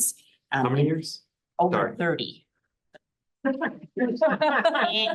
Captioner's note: laughing in the room